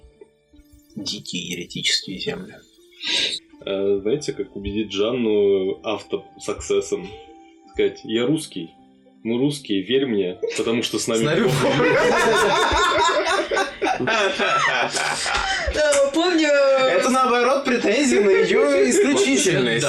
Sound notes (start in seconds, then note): 11.2 the table rofls